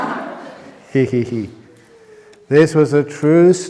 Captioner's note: laughs